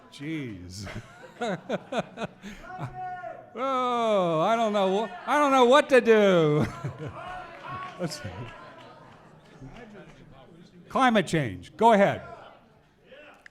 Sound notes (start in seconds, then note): 2.6 voices shouting